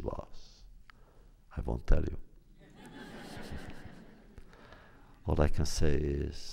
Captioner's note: laughter